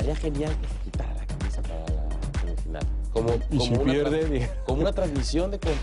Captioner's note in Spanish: risas